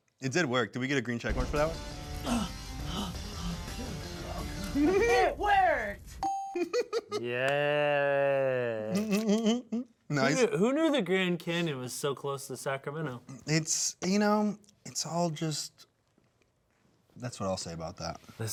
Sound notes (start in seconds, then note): 1.3 intense music; 2.2 gasping; 6.2 check mark dings; 6.5 laughs